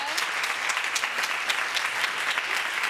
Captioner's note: audience applauding